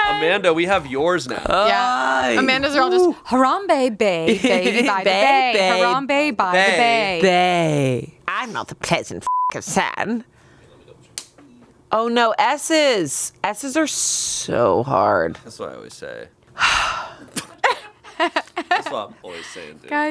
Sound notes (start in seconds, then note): 1.6 groans; 9.2 beep; 16.6 sighs; 17.5 laughs